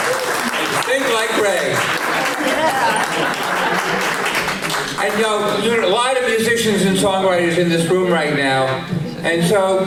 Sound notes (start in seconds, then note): 0.0 applause